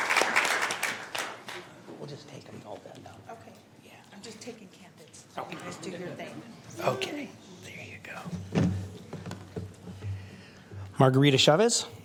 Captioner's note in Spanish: aplausos